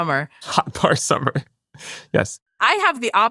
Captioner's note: laughs